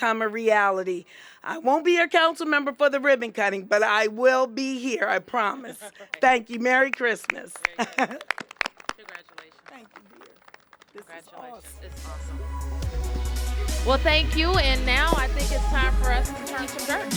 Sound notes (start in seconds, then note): 8.8 applause